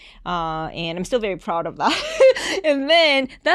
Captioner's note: chuckles